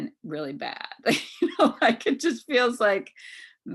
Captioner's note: laughs